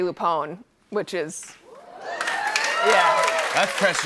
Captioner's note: cheers and applause